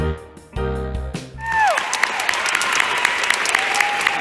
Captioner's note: cheering